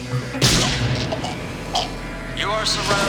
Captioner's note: gunshot